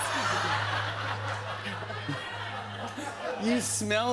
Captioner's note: laughter